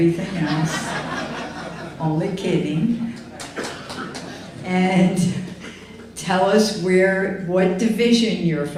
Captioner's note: laughter